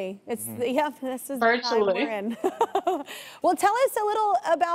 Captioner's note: laughs